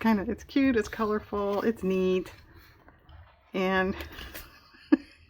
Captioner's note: laughs